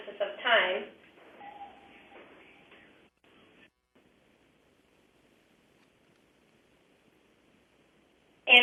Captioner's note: pause